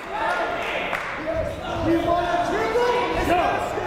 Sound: shouting

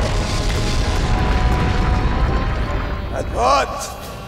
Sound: thudding

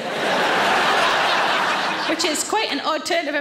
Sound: audience laughs

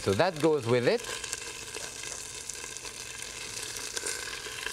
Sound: sizzling

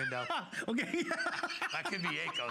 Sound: laughter

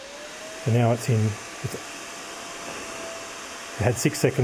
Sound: fan whirring

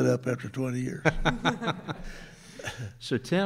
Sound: chuckles

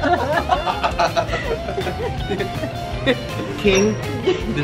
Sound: laugh

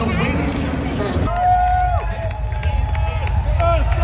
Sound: people clamoring

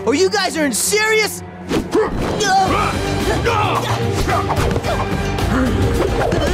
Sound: grunting

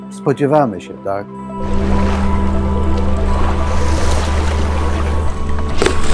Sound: ship’s engine running; lifebelt hits the water

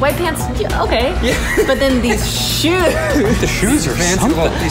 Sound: laughing

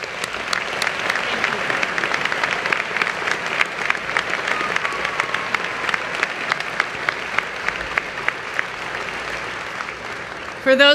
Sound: applause

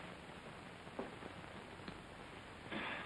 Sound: sigh

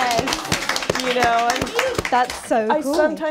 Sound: applause

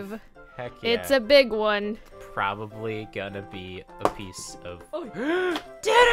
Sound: gasp

